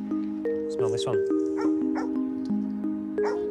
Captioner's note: dog barks